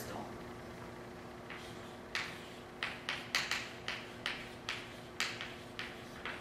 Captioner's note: chalk writing on chalkboard